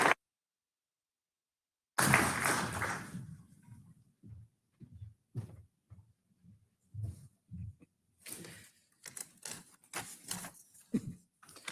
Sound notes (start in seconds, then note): 4.1 footsteps tapping